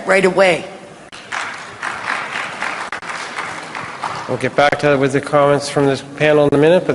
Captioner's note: applause